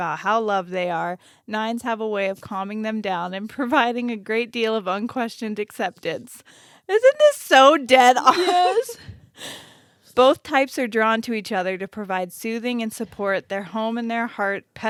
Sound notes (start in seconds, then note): 9.2 sniffles